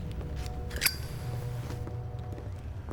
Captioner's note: lighter clicks